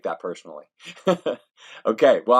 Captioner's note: laughs